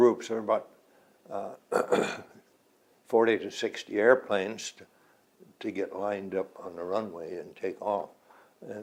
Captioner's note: clears throat